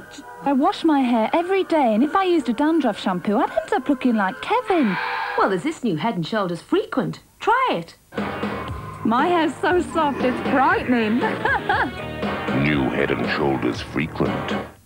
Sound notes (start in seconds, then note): 10.2 laughs at her own joke